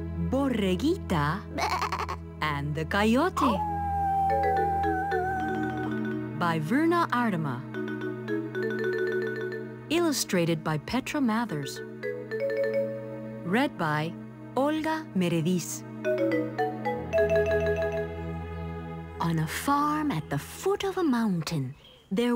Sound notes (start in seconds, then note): 3.5 howling